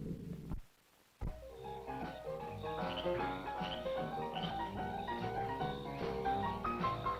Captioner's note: frogs croaking; upbeat music